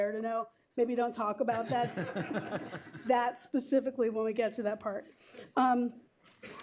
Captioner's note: laughter